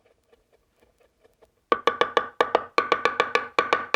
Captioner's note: chopping